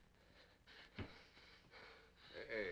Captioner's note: Cooncat gasping